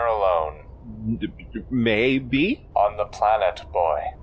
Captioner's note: stammers